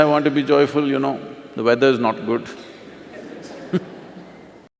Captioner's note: laughter